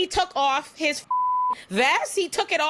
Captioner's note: beep